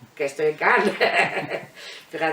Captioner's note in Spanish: Risas